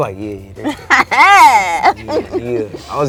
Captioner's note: laughs